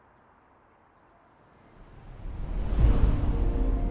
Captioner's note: wind builds